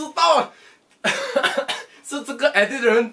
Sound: cough

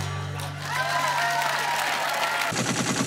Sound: applause

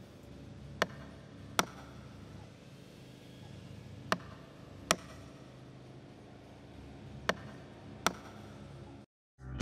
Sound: hammering wood

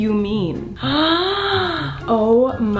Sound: gasps

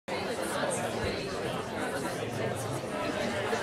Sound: people chattering

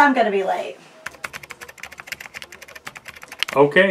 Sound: typing

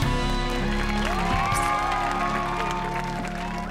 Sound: cheering

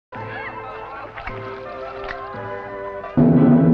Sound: smacking lips; drums

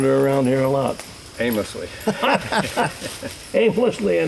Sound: laughter

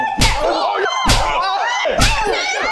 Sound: slap

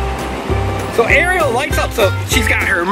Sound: voiceover

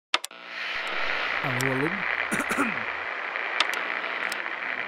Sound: radio turning on and tuning

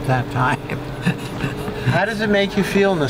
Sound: laugh

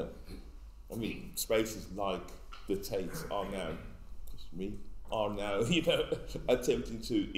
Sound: laughs

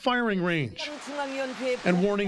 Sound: speaking Alternative Language

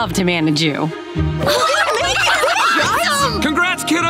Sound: cheering

